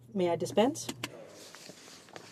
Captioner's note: speaking in french